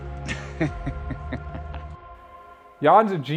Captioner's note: laughs